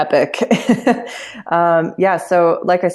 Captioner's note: laughs